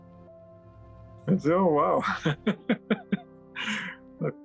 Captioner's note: laughing